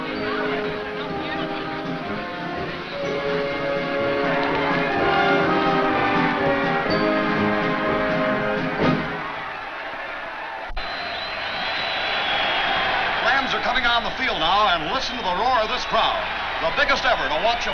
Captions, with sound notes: (festive music) (crowd cheers) - Rams are coming on the field now, and listen to the roar of this crowd, the biggest ever to watch